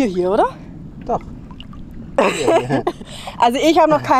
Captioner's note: laughter